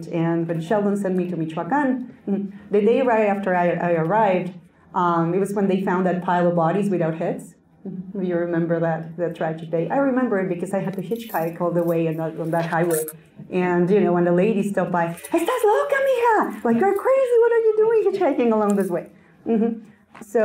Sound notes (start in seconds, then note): 15.2 Spanish